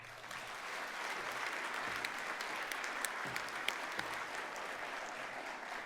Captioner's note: applause